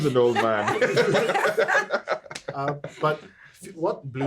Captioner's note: everyone laughing